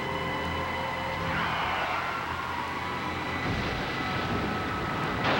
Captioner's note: tires screech